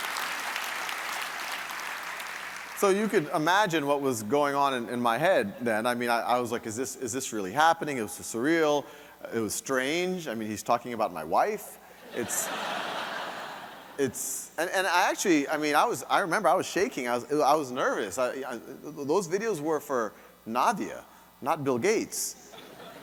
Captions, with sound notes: - So, you could imagine what was going on in my head then, I mean I was like, is this really happening? It was surreal. It was strange, I mean, he's talking about my wife. (audience laughing) And I actually, I mean I remember I was shaking, I was nervous. Those videos were for Nadia, not Bill Gates.